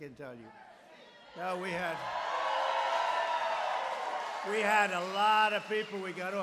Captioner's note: applause